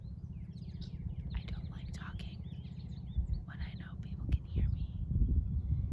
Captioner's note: whispering